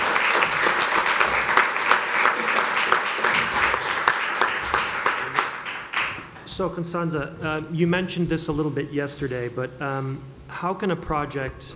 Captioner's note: applause